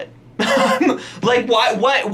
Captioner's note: laughs